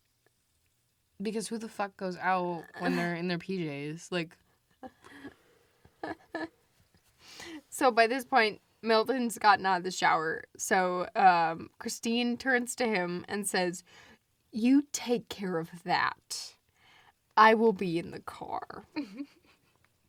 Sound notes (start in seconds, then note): 6.0 laughs; 14.3 laughs